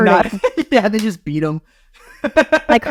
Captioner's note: laughing